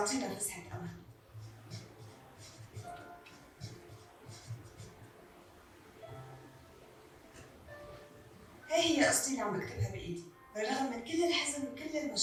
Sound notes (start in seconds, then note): 1.6 door shuts; 1.6 speaking arabic